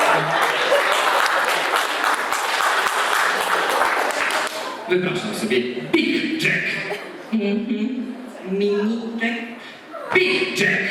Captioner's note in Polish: Aplauz